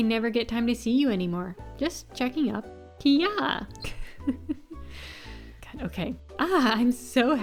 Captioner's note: chuckles